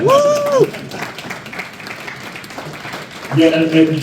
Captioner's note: applause